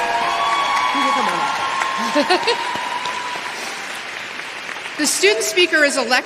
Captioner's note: applause